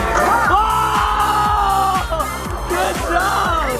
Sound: cheering

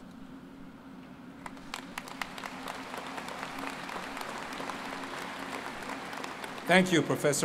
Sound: applause

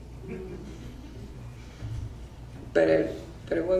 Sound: audience laughs

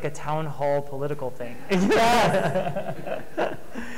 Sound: laughing

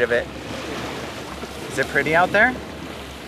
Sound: water whooshing

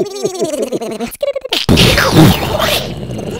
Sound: explosion

